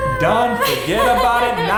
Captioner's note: laughs